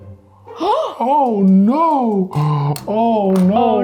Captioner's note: gasping